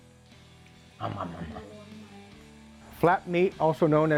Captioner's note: imitates snoring sounds